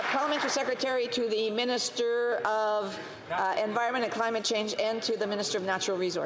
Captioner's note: some Applause